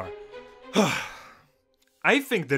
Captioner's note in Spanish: suspiro